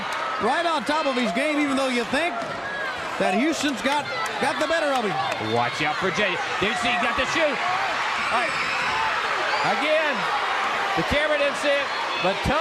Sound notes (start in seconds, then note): 8.6 crowd cheering; 9.9 crowd chatter